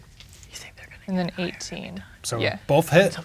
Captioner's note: whispering